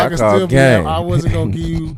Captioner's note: laughing